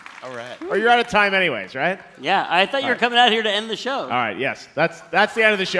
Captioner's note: applause